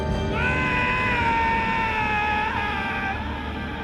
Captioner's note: yelling